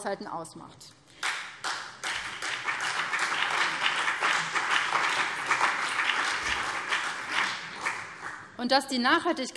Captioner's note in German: Beifall BÜNDNIS 90/DIE GRÜNEN und vereinzelt CDU